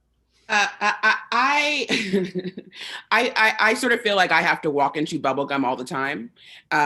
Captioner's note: laughs